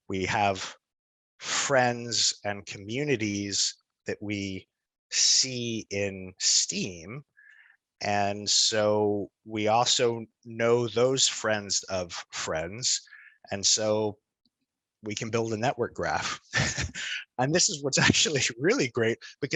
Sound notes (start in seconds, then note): 16.5 laughs